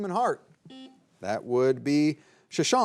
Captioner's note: buzzer buzzing